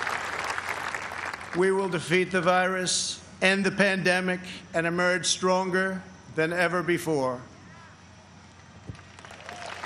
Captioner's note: applause